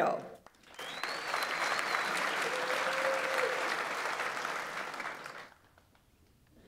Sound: audience applauds; audience members cheer

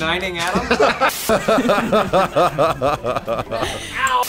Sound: chuckle over pained noises

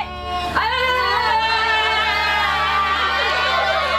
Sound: yelling, laughing

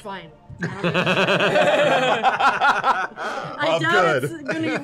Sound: laughter

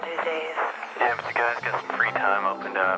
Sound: on phone

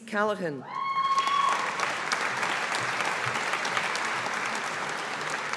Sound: audience applauding

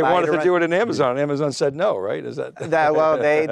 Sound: laughs

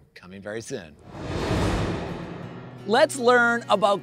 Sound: air whooshing

